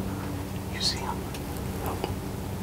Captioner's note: whispering